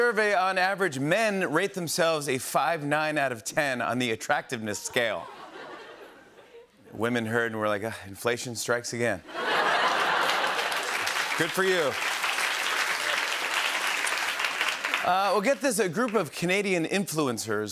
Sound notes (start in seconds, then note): 9.3 laughter and applause; 13.1 applause